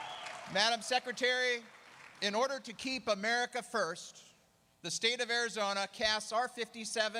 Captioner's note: applause